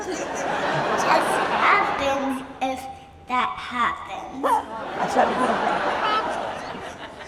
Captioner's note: audience laughs; audience laughs